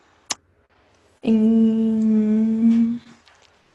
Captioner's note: humming